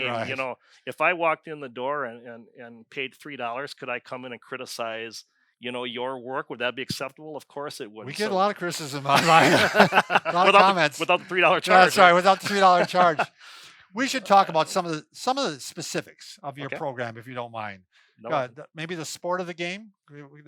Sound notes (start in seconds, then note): 8.9 all laugh; 13.2 laughs